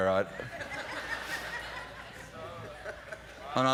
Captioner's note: laughter